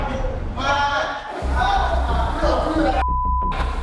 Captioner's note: chatter